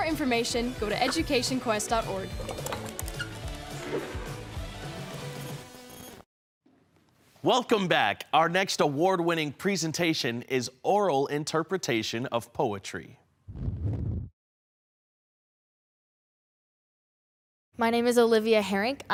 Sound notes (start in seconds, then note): 13.5 silence; 13.5 whoosh